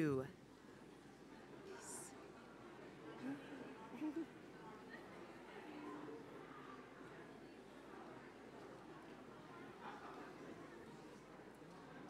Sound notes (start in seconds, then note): 0.8 general chatter as members and visitors greet each other across the aisle